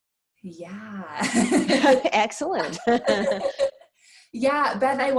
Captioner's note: laughs